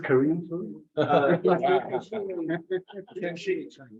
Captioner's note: members laugh